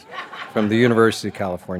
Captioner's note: audience laughs